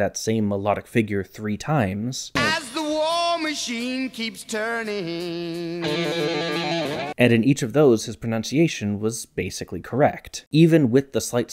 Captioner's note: bang